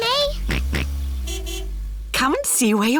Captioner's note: car horn honks; george oinks